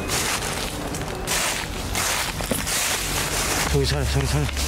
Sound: footsteps

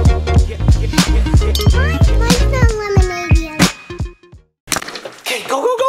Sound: glasses chinking

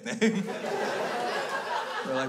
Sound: crowd laughs

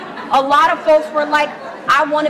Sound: laughs

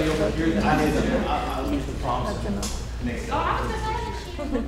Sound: talking

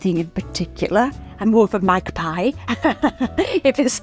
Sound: laughs

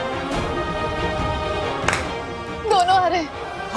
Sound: clapping

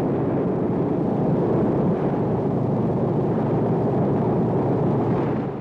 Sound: airplane propellers running

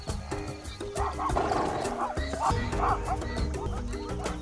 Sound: zebras yapping

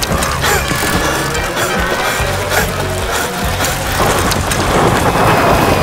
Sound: panting

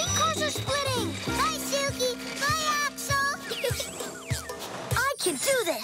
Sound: laughing

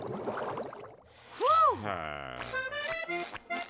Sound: grumbles

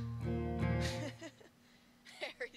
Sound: laughs

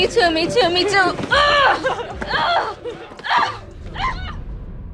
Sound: grunting, yells

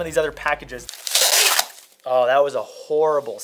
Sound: tape ripping

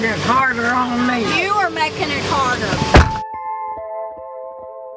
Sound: car door slams

